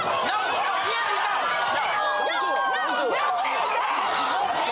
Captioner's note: screaming and fighting